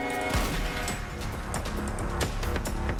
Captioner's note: gunshot